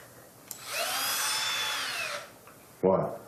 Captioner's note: drill buzzes